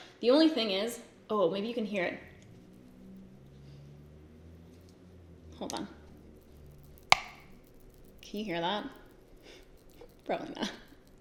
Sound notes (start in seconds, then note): 5.9 brush rattles